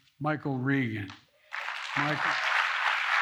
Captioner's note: applause